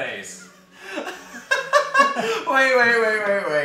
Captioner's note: laughs